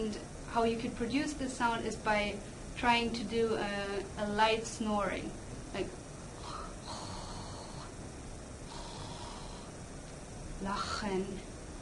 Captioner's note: snore sound